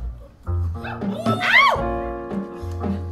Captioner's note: audience cheers